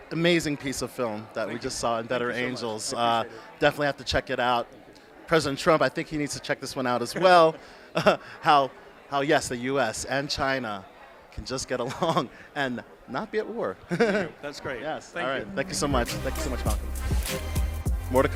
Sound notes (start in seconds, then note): 7.7 laughs; 13.8 both chuckles